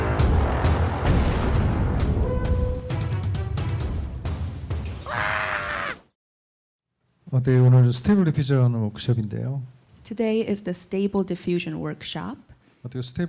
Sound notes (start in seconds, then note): 5.0 yells; 7.4 speaking korean